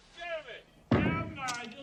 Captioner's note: knocks loudly on door